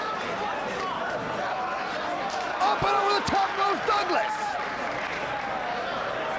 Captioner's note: presenter speaking faintly off mic